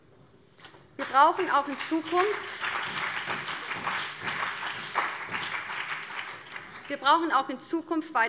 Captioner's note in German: Beifall BÜNDNIS 90/DIE GRÜNEN und CDU